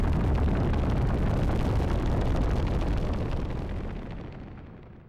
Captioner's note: flames crackling